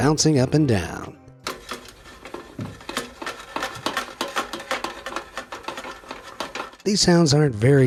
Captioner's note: metals clanks